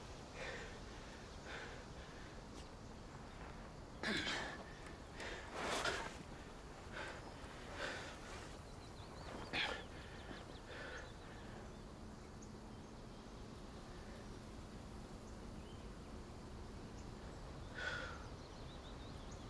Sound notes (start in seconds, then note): 4.0 Ben grunts; 7.1 Ben gasping; 7.1 birds chirping